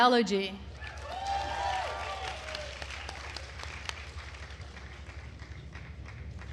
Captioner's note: attendees cheering and applauding